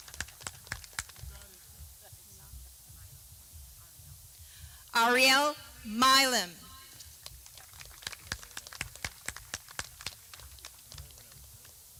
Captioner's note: clapping